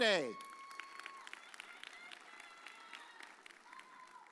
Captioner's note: audience cheers